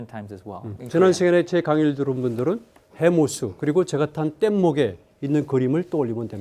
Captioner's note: speaking in Korean